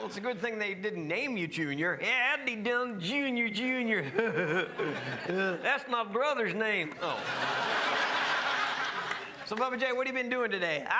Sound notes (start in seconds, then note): 4.1 laughs; 6.9 crowd laughs